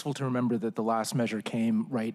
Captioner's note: laughter